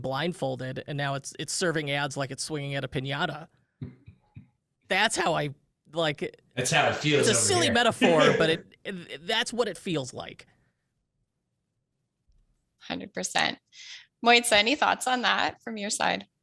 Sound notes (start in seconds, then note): 3.5 laughs